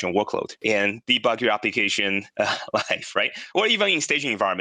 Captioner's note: laughs